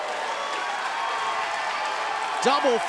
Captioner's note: crowd cheering